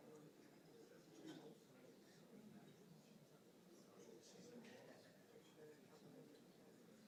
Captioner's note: audience noise continues